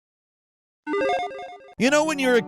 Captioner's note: electronic chiming